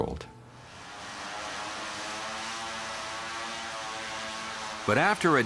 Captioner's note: aircraft whirring